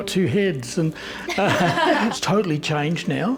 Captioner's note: laughs